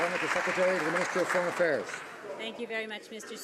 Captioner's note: some Applause